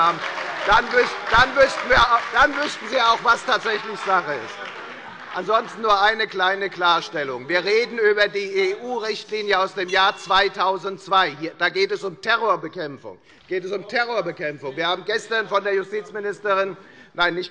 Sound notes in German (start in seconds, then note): 2.9 Beifall bei der FDP und der SPD - Unruhe - Glockenzeichen der Vizepräsidentin